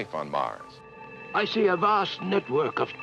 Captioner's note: male Voice